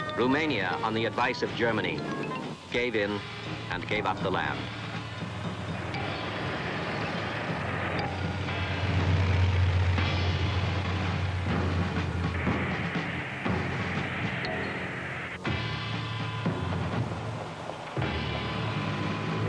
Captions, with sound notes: Romania, on the advice of Germany, gave in and gave up the land. (tank engines rumbling) (tense suspenseful music)